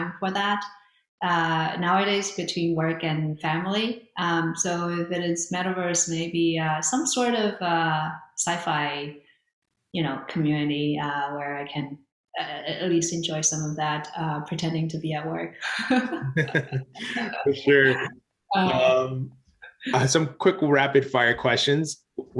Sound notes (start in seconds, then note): 15.6 both laugh